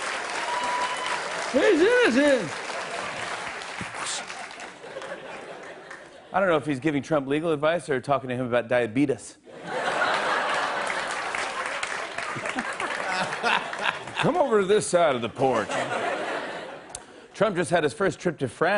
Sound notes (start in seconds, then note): 0.0 cheers and applause; 9.6 laughter and applause; 12.2 laughs